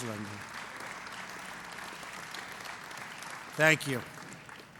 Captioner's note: applause